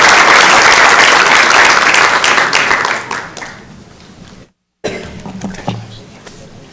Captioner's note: applause